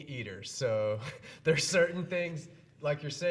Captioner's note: chuckles